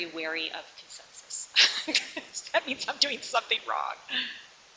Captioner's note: laughs